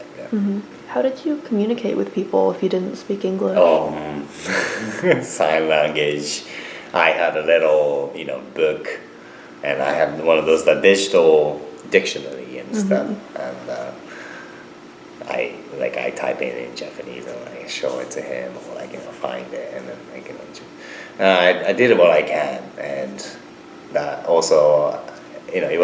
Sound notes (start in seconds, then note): 4.3 laughs